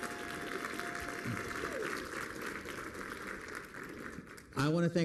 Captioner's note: applause